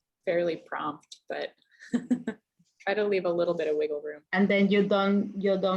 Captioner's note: laughs